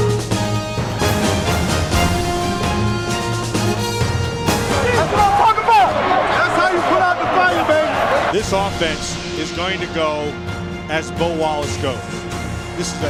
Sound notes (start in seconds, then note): 0.1 triumphant music; 8.2 voiceover